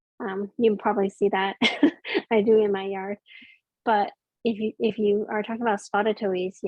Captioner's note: laughs